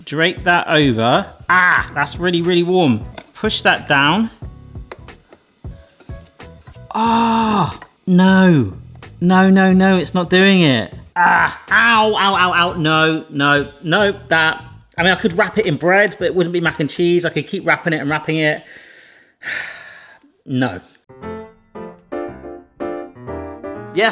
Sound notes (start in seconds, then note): 4.8 lid taps; 5.0 bright instrumental music; 19.4 sighs; 21.1 bright instrumental music